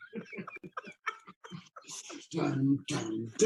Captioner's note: laughing